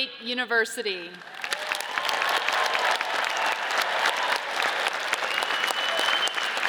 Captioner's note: audience cheers and applauds